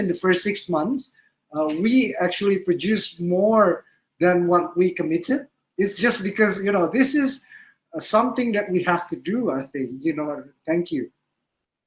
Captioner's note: speaking indonesian